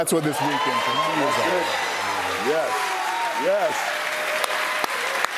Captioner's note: cheers and applause